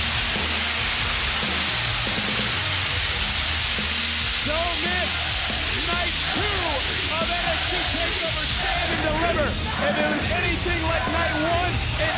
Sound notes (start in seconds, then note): 9.1 audience chanting "nxt"